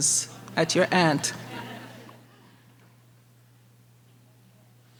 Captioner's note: audience laughing